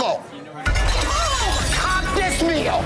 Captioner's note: plate shattering